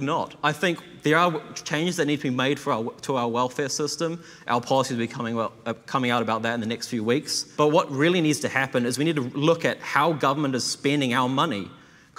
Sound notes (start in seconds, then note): none